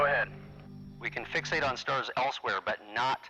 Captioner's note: radio